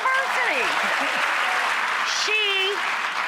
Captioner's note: audience applauds